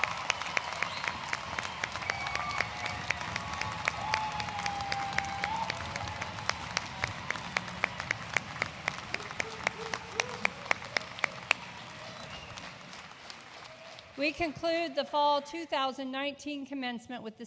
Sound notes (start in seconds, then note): 5.3 cheering & applause